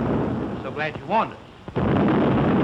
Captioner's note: boom